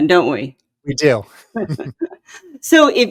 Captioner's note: both chuckle